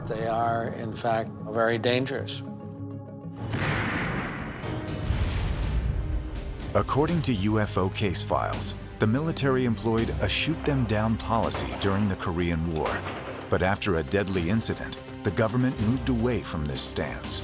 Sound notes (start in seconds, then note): 3.4 explosion; 3.5 firing